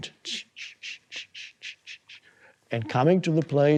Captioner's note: imitates eraser scratching